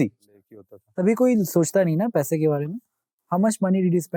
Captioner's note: speaking in Hindi